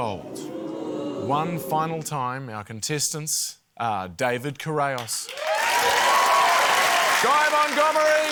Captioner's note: cheering, applause